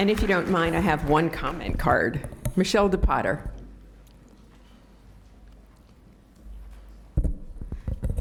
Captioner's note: applause